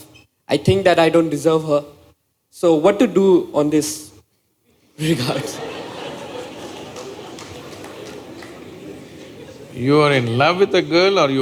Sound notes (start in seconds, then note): 5.2 laughter